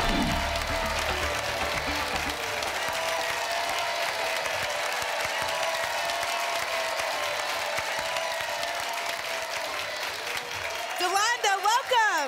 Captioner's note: applause and cheering cont